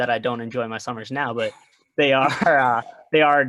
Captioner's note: laughs